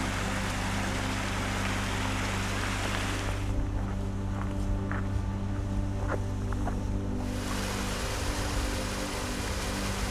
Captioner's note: water rushing